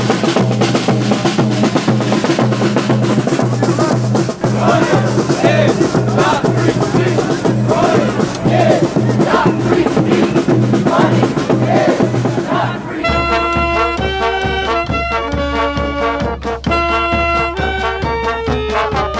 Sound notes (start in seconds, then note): 4.2 crowd chants; 14.1 polka music